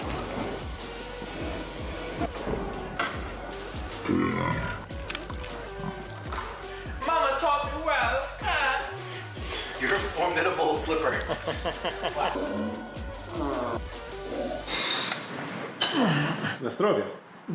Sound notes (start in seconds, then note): 0.1 gentle upbeat music; 4.1 person belching; 9.0 laughs; 11.5 laughs; 14.4 plate scraping; 15.8 grunts; 16.6 speaks in foreign language